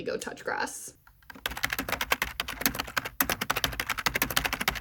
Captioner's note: keyboard typing noises